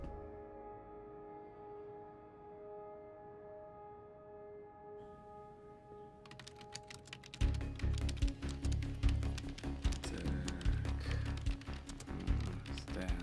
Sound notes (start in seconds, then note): 6.2 keyboard clacking